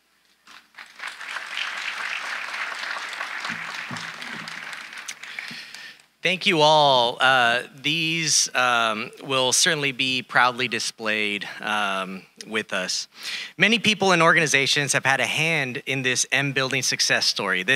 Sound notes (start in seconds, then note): 0.5 audience applauding